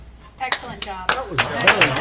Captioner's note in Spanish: aplausos